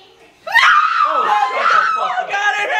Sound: screams

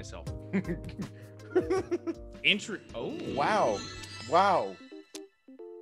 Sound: laugh

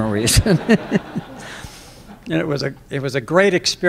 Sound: laughter

